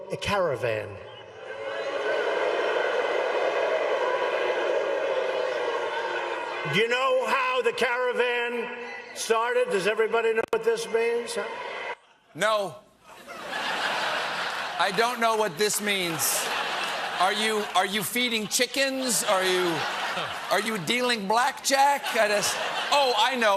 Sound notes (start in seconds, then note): 1.4 booing